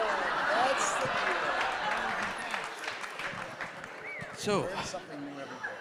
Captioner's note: audience laughing; audience applauding